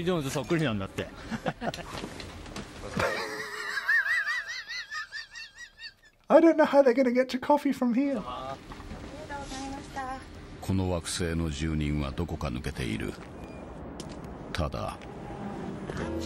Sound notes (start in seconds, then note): 2.9 diners laugh; 2.9 laughs; 10.8 narrator speaks in Japanese